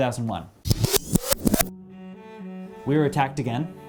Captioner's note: videotape zipping